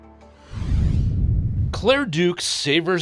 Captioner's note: logo whooshing